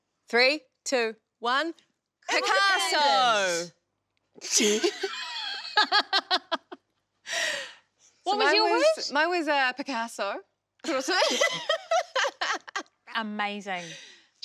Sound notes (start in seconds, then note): 5.5 all laugh; 10.9 laughs